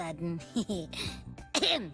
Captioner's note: laughs